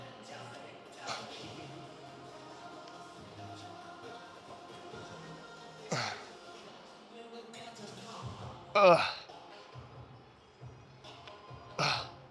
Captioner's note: grunting